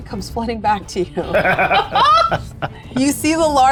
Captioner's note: group laughing